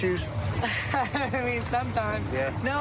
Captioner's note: laughs